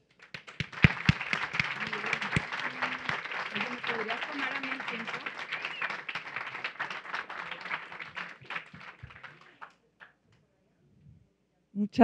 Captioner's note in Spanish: Aplausos